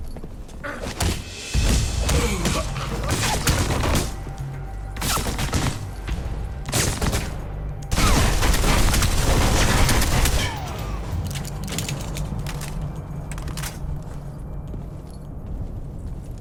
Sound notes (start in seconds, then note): 0.9 fists thudding; 7.9 gun firing